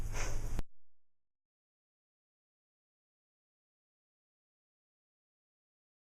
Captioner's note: silent